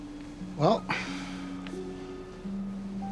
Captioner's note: sighs